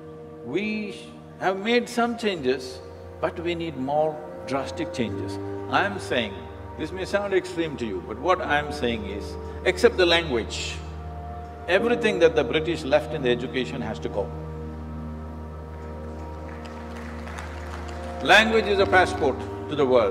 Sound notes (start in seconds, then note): 16.0 applause